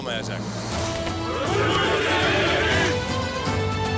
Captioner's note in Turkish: Hep bir ağızdan